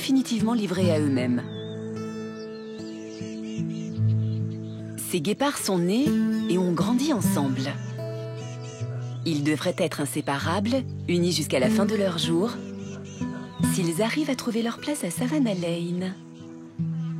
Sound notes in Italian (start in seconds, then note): 5.8 musica strumentale; 12.2 cinguettii